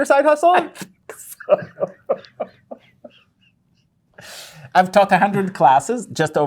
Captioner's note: laughing